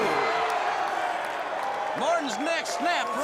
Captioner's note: crowd cheering